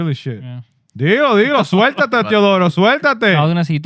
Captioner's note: speaking In Foreign Language